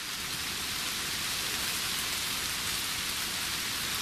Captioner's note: rain pattering